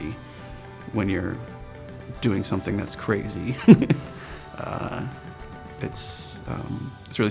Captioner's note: laughs